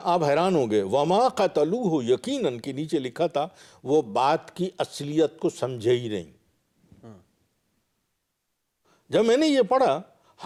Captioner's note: Arabic